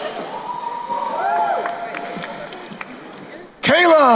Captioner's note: crowd cheering